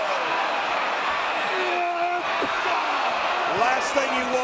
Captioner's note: both grunting